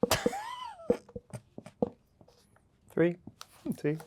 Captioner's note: marker thuds; Yerin laughing